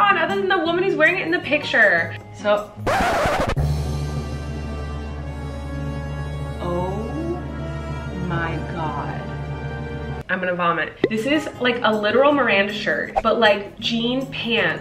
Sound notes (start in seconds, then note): 3.2 scratch sound; 3.5 dramatic music